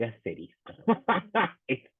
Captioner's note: laughing